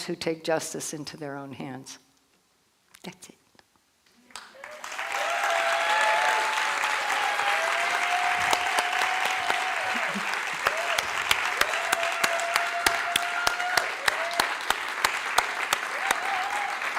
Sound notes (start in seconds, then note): 4.2 applause